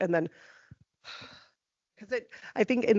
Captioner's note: sighing